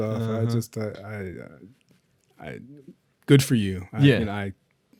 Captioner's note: stammers